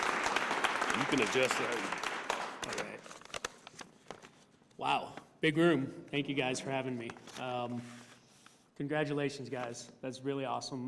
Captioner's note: cheers and applause